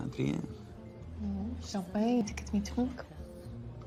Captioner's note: French accent